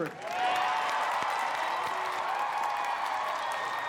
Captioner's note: crowd cheering